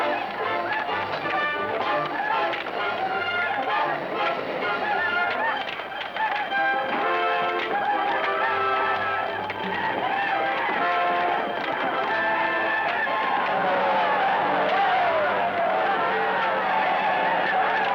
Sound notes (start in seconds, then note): 13.9 natives shouting